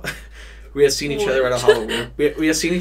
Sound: chuckles

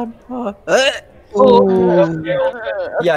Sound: groans of disgust; hurk

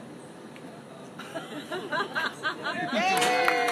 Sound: laughter; applause

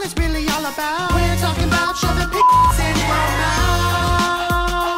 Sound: beep

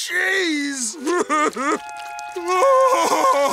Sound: crying

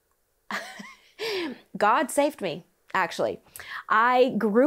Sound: laughs

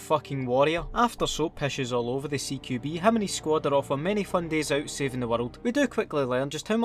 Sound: Scottish accent intensifies

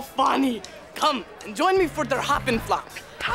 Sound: speaking foreign language

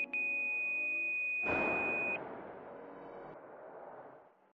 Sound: heart monitor flatlining

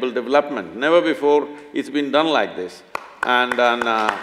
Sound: applause

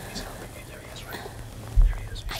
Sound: whispering

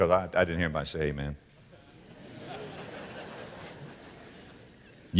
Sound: audience laughter

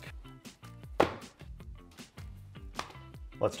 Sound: mold plops

